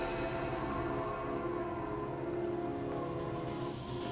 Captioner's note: wind whistling